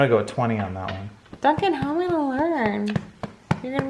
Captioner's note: none